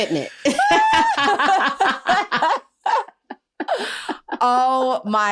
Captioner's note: laughter